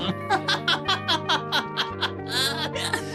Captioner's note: laughing